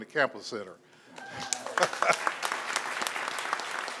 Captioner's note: applause; laugh